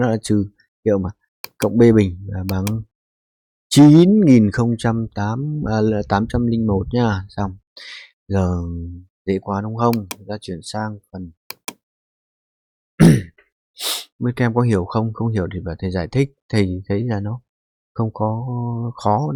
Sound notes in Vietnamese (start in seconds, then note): 13.0 hắng giọng; 13.8 khịt mũi